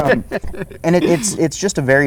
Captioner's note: laughter